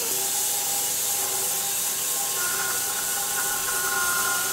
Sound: saw buzzes

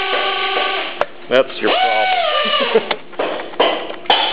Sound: chuckles

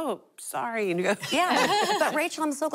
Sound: laughing

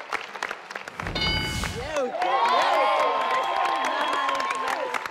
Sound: people applauding

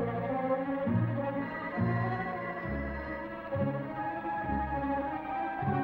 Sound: phone ringing

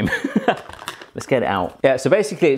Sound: chuckling

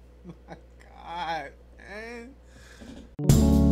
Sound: laughing; elevator music

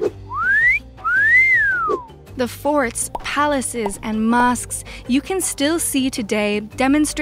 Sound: whistling

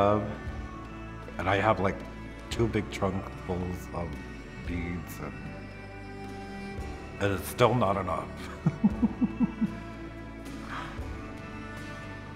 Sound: laughs

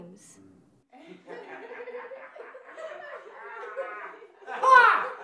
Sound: group laughing

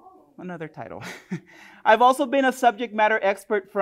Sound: chuckles

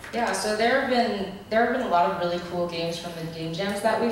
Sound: voiceover

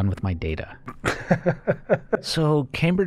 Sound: chuckle

